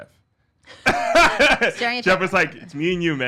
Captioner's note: laughs